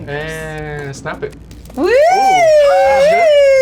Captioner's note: cheering